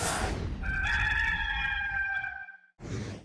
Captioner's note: rooster crowing